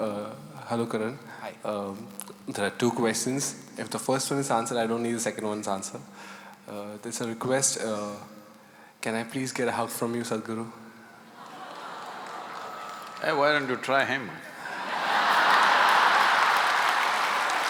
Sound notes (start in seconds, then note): 11.3 laughter/Applause; 14.6 laughter/Applause